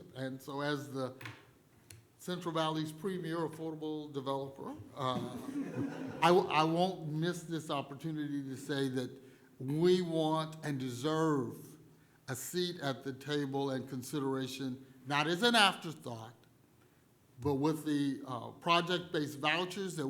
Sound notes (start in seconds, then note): 5.0 laughter